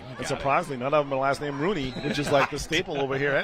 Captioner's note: laughter